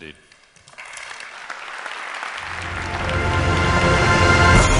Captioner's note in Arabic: تصفيق